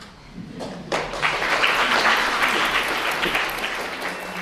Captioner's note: applause